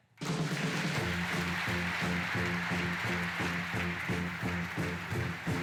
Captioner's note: applause